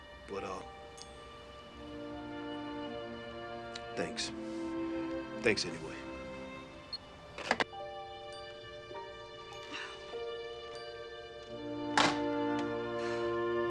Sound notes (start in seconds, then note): 7.8 somber music; 10.5 sighs sharply